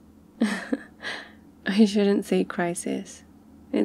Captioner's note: laughs